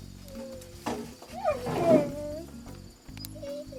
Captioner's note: dog whining